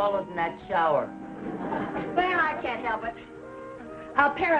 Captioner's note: audience laughing